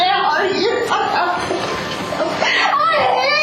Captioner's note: crying